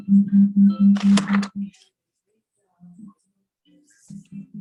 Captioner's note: object rustling